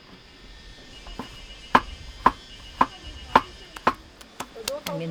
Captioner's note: chop chop chop